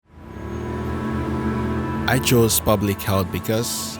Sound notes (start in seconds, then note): 0.0 ambient music; 0.2 motorcycle engine